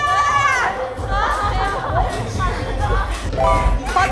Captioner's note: screams break out everywhere